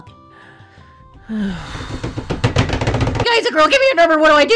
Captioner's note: long Sigh; rushing Footsteps